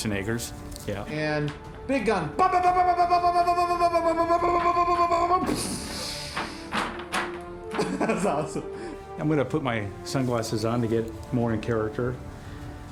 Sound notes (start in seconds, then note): 2.2 imitating machine gun